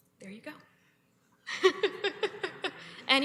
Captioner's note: laughs